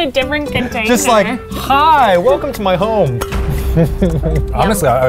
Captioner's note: chuckles